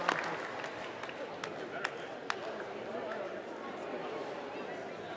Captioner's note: crowd chattering